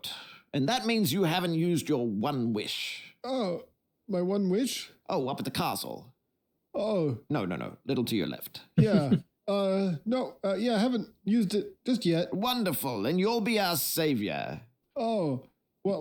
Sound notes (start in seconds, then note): 8.8 giggling